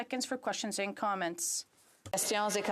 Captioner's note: speaking French